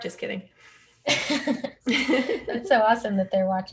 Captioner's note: both laugh